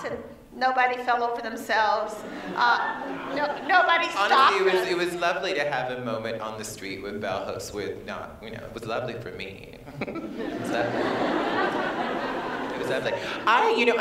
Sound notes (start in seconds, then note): 9.9 laughter